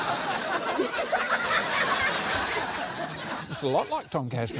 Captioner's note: laughter